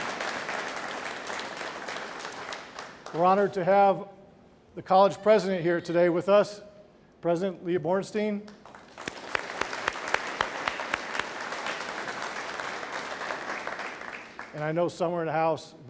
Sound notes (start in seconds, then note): 8.6 audience applauding